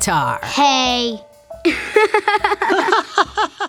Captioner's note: laughing